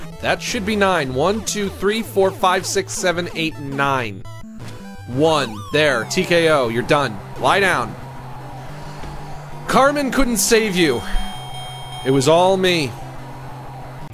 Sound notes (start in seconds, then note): 8.0 crowd cheering